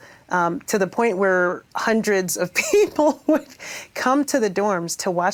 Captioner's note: chuckles